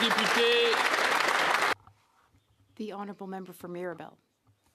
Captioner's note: some Applause